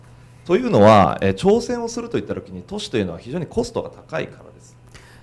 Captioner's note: speaking foreign language